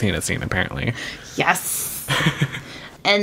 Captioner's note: laughs